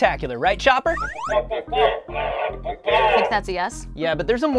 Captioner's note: Chopper beeps